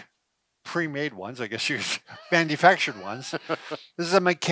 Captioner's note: chuckling